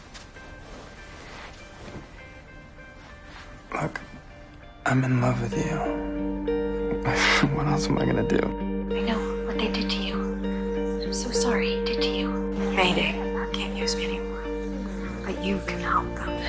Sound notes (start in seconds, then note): 6.8 laughing; 9.0 voiceover